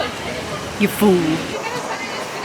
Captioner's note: sarcastic